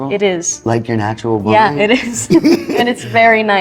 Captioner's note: chuckling